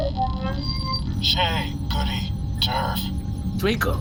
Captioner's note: over comms